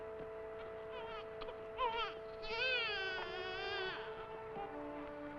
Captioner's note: baby crying